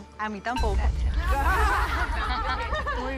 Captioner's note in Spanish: todas ríen